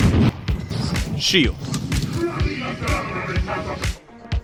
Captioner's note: yelling